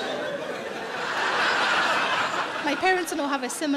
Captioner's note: audience laughing